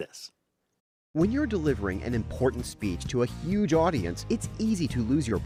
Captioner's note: voice-over